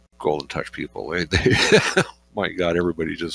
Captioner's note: laughs